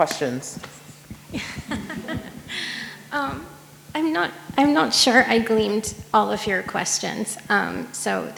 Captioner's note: laughs